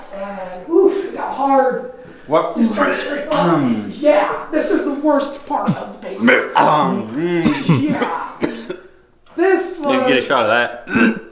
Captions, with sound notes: - Wha-- [gags] - Wha-- [gags] - Wha-- [gags] - Yeah, this is the worst part of the basement! - Yeah, this is the worst part of the basement! - Yeah, this is the worst part of the basement! [gagging all around] [gagging all around] [gagging all around] Yeah... [gagging all around] Yeah... [gagging all around] Yeah... [gagging all around] [gagging all around] [gagging all around] [gagging all around] - Hey, get a shot of that... [gags] - Hey, get a shot of that... [gags] - Hey, get a shot of that... [gags]